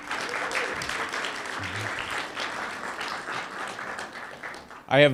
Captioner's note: applause